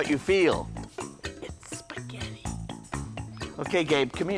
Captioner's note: whispering